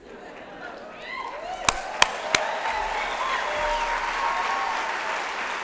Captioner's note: laughter, applause